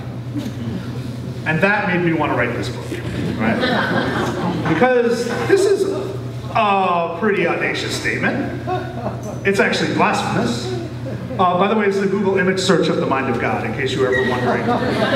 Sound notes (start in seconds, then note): 3.1 laughter